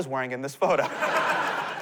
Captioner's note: laughter